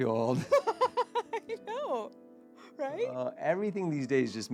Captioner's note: laughing